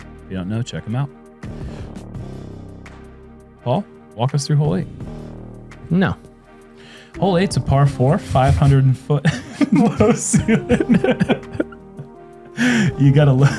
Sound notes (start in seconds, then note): 9.2 laughter; 12.6 chuckles